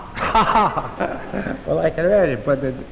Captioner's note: Ed laughing